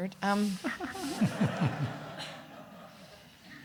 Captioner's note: everyone laughing